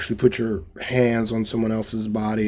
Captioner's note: none